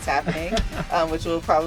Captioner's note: laughs